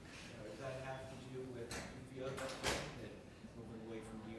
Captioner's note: door shutting drowns out speaker